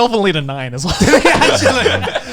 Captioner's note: laughs